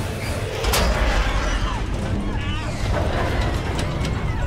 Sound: engine roaring; plane shaking

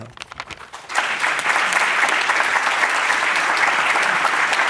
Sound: audience applauding

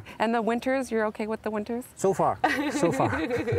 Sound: laughing

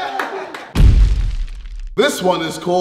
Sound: explosive sound

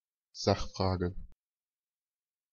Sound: fast Pronunciation

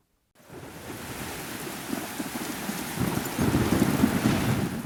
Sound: sounds of rain, thunder

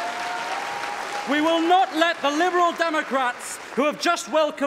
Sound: applause

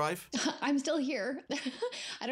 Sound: laughs

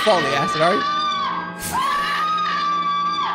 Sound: scoffs

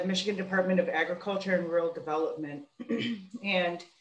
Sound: clears throat

